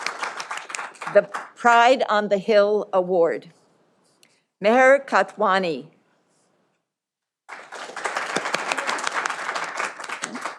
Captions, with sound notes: The pride on the Hill Award Nahal Katwani. (audience applauding)